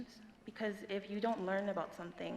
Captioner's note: none